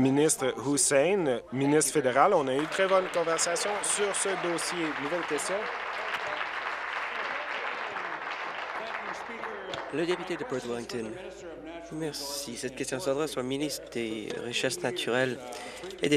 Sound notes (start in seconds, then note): 7.6 applause